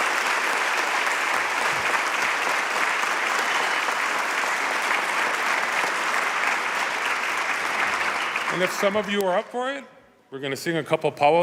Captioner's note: cheers and applause